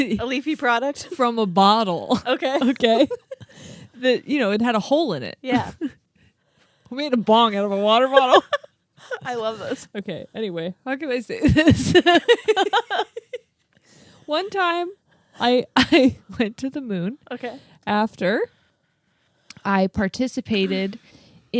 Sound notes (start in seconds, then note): 8.0 laughs; 11.5 laugh